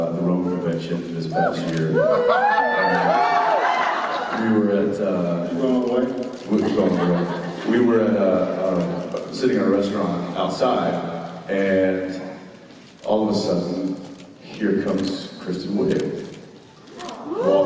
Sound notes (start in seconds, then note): 2.1 Jared laughs